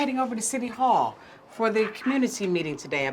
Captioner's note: none